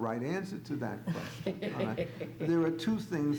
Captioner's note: laughs